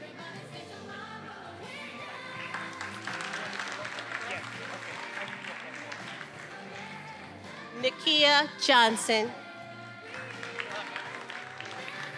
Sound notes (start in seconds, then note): 6.3 speaks faintly; 10.0 everybody applauding